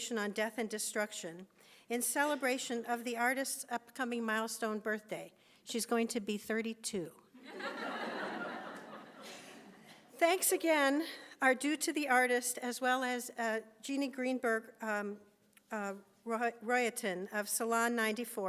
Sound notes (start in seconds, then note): 7.5 laughs